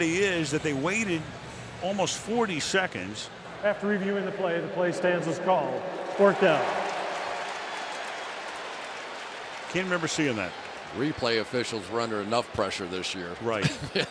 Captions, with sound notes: But the oddity is that they waited almost 40 seconds. After reviewing the play, the play stands as called. Fourth down. [cheering] Can't remember seeing that. Replay officials were under enough pressure this year.